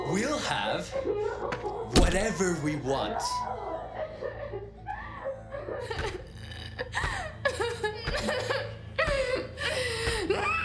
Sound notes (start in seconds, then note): 3.5 Ema crying; 5.8 dramatic music